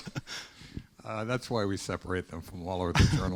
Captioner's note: students laughing